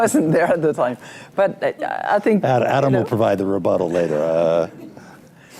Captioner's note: laughter